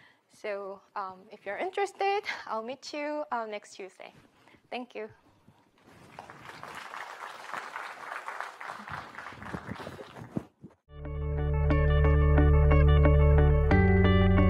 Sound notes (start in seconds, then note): 6.0 crowd clapping; 11.0 lively music